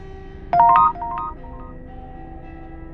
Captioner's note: text sound; dark music